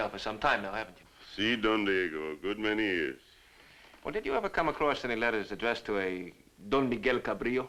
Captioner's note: none